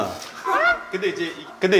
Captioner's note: chuckles